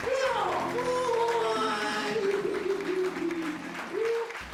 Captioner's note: applause